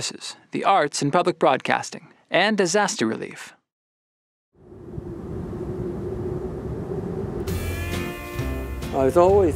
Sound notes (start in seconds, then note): 4.6 airplane engine sound